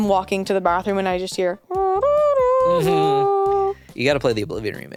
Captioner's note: imitating trumpet